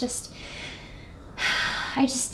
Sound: emma lets out a deep breath

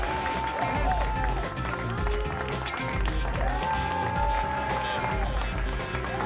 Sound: applause and cheering cont

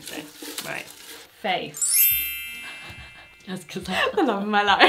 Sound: bells chiming

